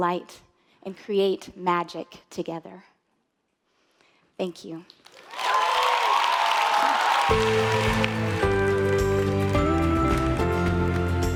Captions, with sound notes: and create magic together. Thank you. (audience applauding) (upbeat instrumental music)